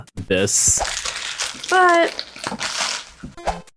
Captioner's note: loud bag sounds